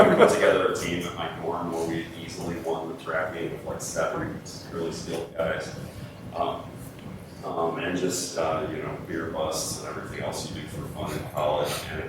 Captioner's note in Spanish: Risas